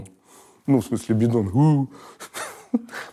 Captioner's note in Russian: имитирует эхо